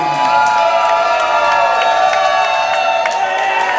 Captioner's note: audience cheers